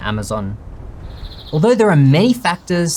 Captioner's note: birds chirping